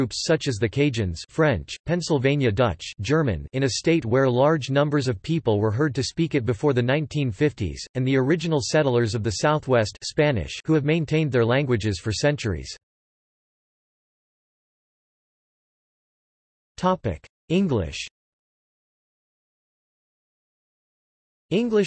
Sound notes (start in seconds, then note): 2.8 German; 9.9 Spanish